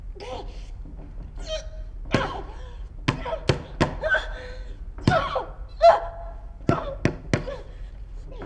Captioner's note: banging